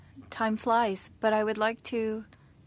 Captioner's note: speaking french